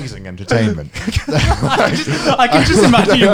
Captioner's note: laughing